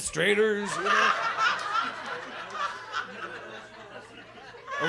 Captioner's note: audience laughs